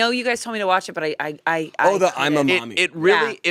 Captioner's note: stammers